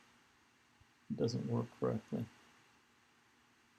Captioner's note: mumbles